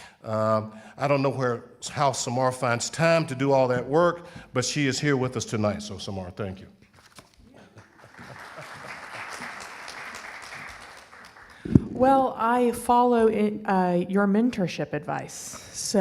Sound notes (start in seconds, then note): 7.7 audience applauding